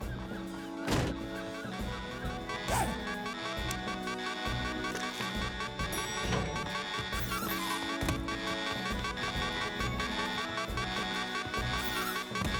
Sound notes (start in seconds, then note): 2.3 alarm Buzzing